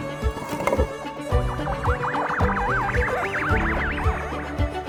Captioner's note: bead turning on the bar can be heard; siren sounds can be heard